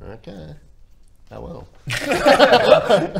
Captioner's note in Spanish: risas